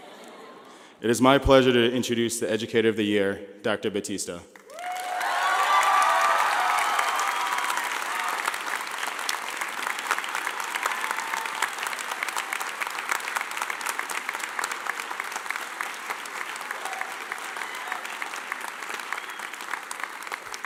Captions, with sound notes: (laughing) It is my pleasure to introduce the educator of the year, Dr. Battista. (clapping)